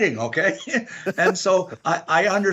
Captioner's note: laughter